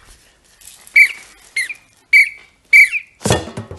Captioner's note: four quiet whistling sounds; quiet drumming sounds